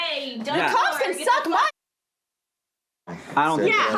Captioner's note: muted